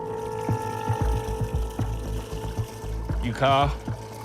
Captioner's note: water trickling